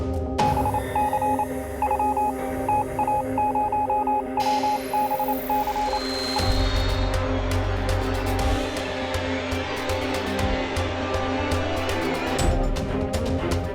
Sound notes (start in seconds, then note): 0.4 morse code beeps; 6.8 suspenseful music